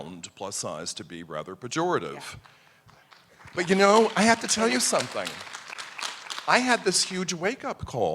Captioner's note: applause